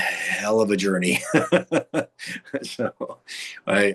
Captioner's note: laughing